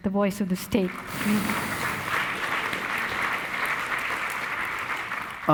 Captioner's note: audience applauding